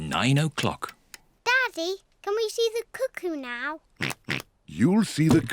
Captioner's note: oinks